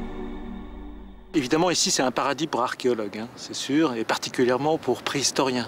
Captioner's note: French spoken audio